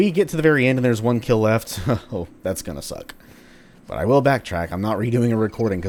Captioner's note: chuckles